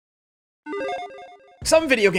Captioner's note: logo beeping